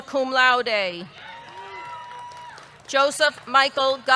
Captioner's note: audience cheering; audience clapping